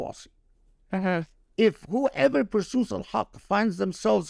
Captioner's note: speaking Arabic